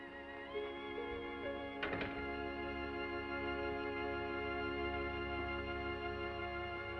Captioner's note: gentle music; door latches